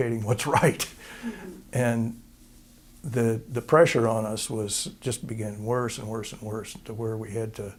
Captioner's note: laughter